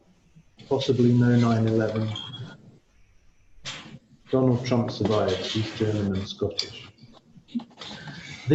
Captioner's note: laughter